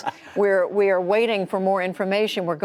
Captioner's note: laughter